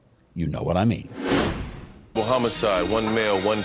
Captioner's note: wind whooshing